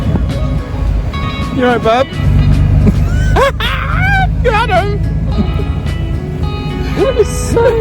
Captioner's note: laughs